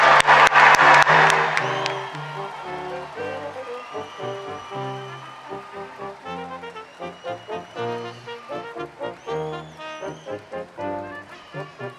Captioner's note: applause and cheering